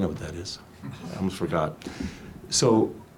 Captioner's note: audience laughs tentatively